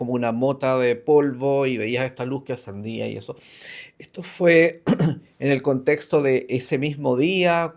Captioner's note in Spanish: carraspeo